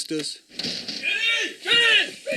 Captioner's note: thuds